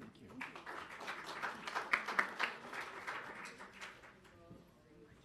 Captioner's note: audience applauding